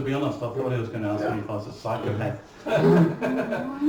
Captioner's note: laughing